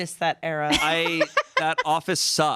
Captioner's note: laughs